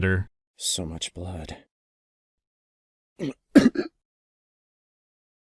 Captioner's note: gags